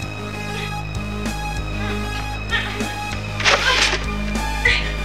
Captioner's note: choking